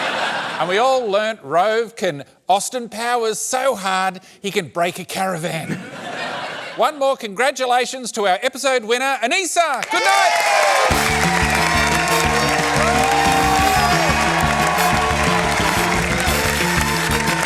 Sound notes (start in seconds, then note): 9.8 cheering and applause